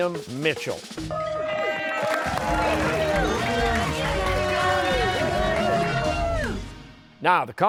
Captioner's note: cheers and applause